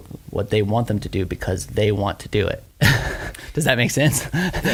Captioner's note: laughs